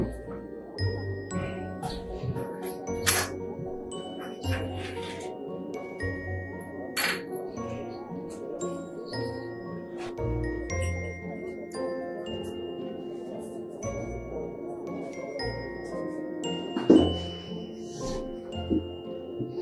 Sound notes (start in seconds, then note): 0.7 mysterious music continues; 3.2 jewelry clinking; 9.1 mysterious music continues